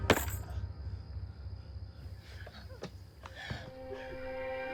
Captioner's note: insects chirping